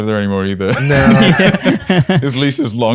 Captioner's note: laughter